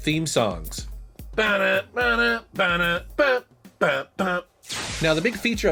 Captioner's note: vocalizes